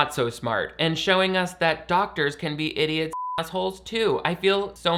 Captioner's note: beep